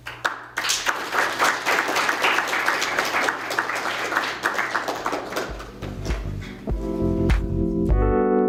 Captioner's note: applause; closing music